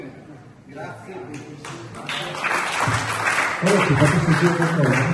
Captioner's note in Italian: Applauso